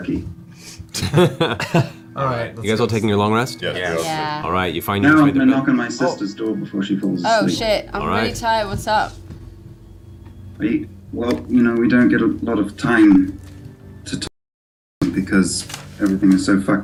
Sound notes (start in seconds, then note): 3.7 various sounds of agreement